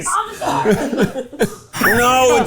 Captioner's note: laughing